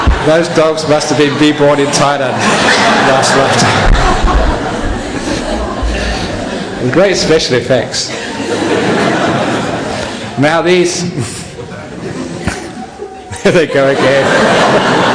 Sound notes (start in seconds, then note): 0.0 laughter; 7.9 laughter; 15.0 laughter